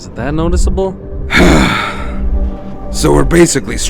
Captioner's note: sighs